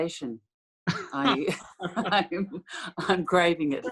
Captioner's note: laughter